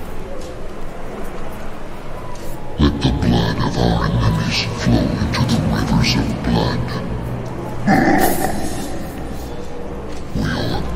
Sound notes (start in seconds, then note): 8.7 laughing